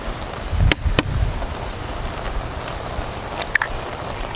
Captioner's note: egg tapping